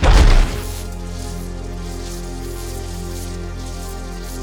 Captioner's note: sword crackling